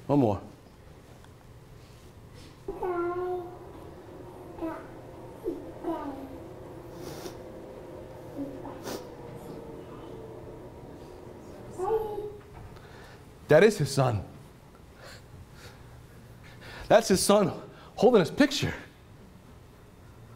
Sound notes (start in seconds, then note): 3.0 cooing